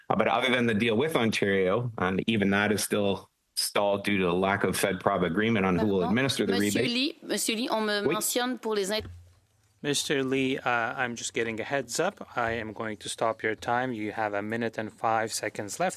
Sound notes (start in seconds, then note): 12.7 speaking French